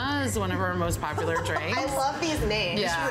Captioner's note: laughs